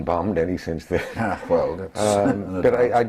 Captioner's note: laugh